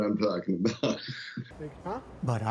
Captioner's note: laughter